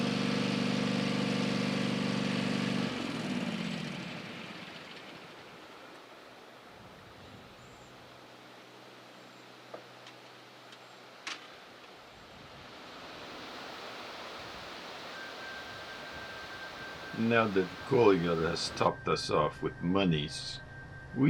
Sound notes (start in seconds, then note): 3.4 mower engine stops; 3.4 wind blowing; 15.0 curious music